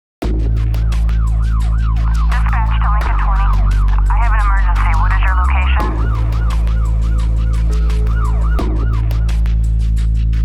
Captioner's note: sirens